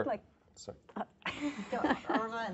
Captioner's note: laughter